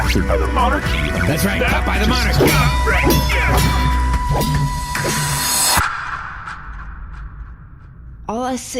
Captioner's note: slashing